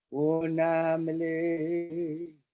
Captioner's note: chanting